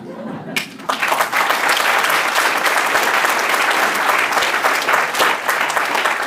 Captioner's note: applause